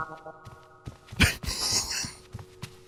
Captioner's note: laughs